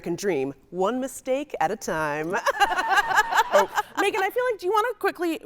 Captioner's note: laughing